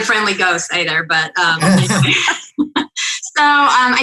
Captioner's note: laughing